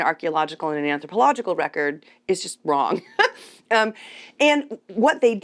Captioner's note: chuckles